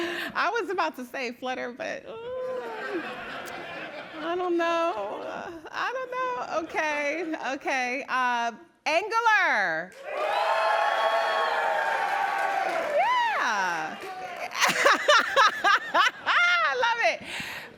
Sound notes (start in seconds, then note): 9.9 cheering